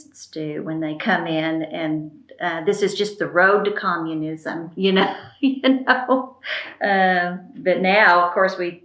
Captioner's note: laughs